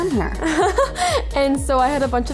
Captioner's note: Chloe laughs